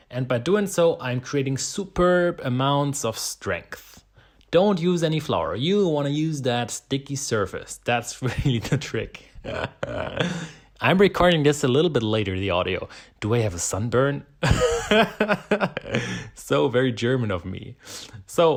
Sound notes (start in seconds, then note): 9.3 chuckling; 14.4 laughing